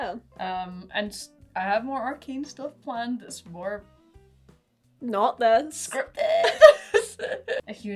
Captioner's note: laughing